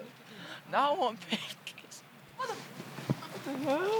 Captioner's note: laughs